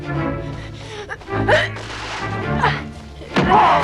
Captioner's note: Hundra grunting